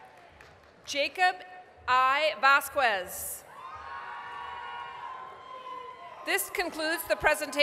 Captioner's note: applause, cheering; applause, cheering